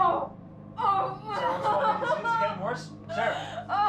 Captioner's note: Sarah shrieks in pain